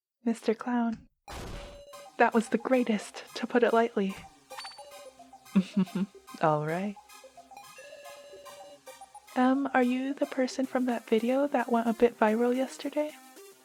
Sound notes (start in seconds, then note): 5.5 laughs